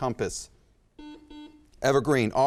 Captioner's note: buzzer chimes